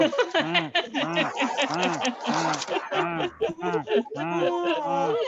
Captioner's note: laughter